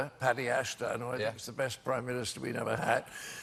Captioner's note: none